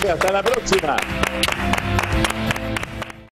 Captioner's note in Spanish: aplausos